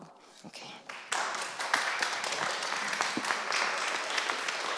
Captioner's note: applause